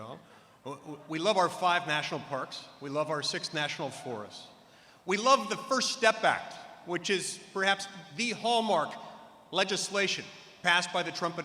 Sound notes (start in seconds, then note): none